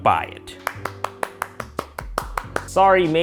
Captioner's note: clapping